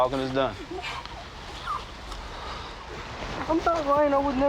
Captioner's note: whimpering